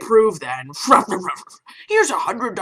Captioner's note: stuffy rich dad noises